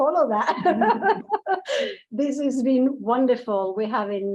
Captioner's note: laughing